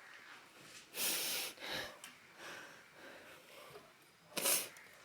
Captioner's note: sniffling